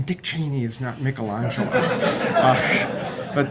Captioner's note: laughter